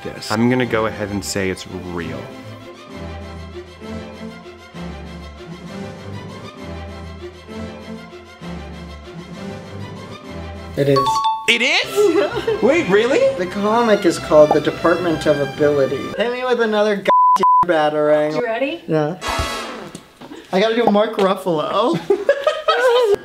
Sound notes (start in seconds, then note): 10.9 dinging; 21.9 laughs